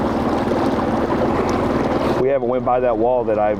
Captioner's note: river babbling; engine idling